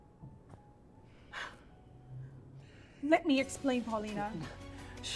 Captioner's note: Abby sighing